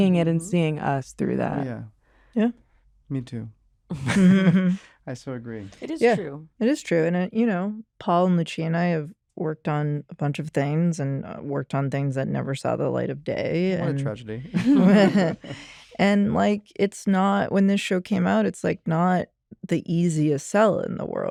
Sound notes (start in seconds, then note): 13.8 chuckles